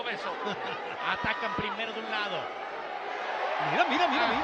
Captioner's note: laugh